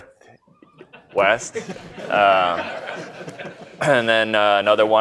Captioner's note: laughter